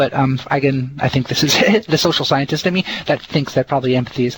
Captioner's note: heh heh